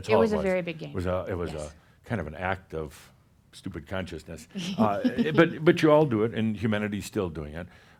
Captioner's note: she giggles